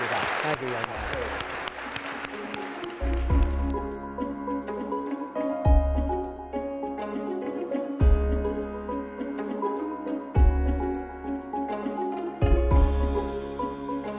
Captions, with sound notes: with your time, thank you. (audience applauds) (gentle music)